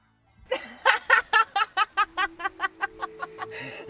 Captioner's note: Leah laughing